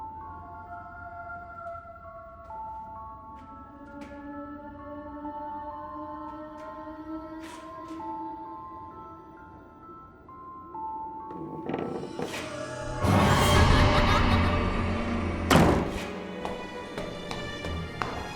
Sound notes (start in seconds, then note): 11.3 creaking; 15.9 suspenseful orchestral music